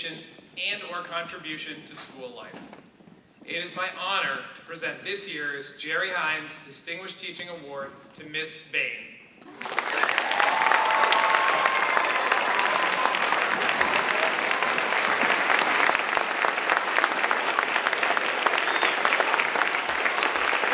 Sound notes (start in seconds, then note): 9.5 audience cheering and applauding